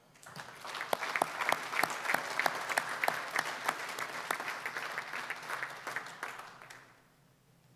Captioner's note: applause